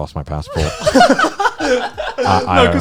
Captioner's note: guys laughing